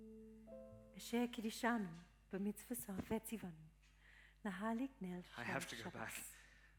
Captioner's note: praying in Hebrew